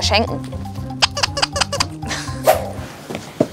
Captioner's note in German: Quietschlaute